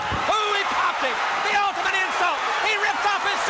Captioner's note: crowd cheering